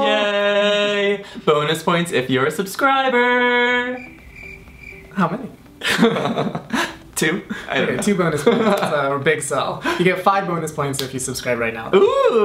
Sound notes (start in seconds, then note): 3.9 crickets chirping